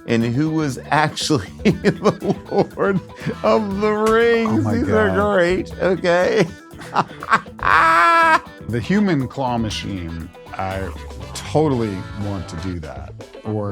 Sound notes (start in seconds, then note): 7.5 laughs